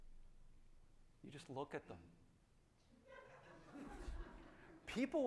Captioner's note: audience laughing